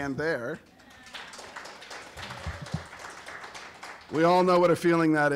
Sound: applause

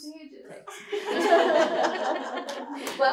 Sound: laughter

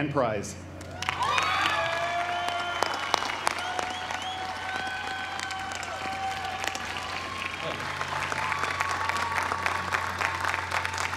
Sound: applause

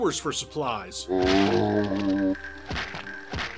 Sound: zombie groan

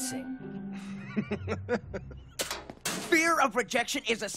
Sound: laughing

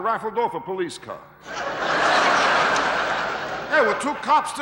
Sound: audience laughing

